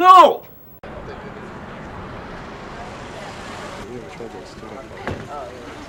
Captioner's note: chatter